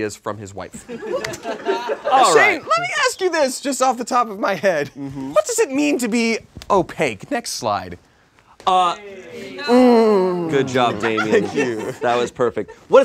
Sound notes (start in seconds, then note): 0.9 audience laughs